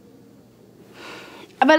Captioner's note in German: Seufzen